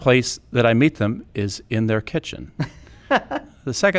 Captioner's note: laughing